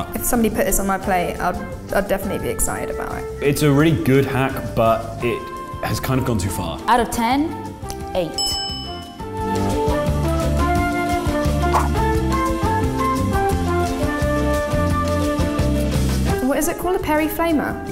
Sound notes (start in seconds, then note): 8.3 bell dings; 9.5 lively music